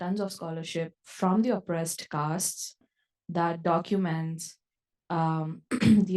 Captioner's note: cough